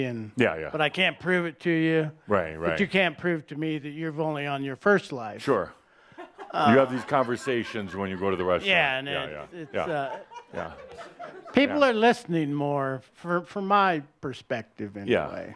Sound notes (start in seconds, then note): 8.7 a few giggles